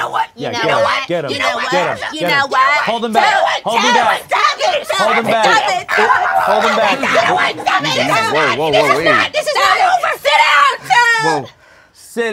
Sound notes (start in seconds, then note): 5.5 Toad and Peach shouting